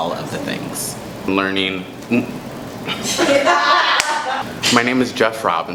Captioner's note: laughter in the backgroudn